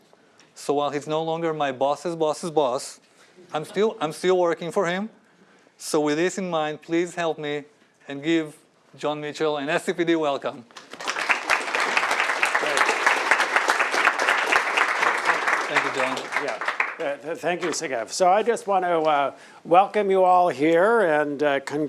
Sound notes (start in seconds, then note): 3.1 laughter; 10.7 applause